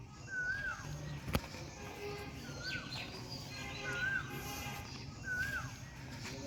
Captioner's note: cuckoo is singing